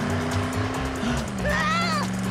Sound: gasping

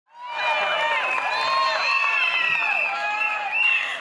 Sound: crowd cheers

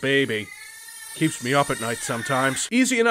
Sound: creepy metallic baby crying

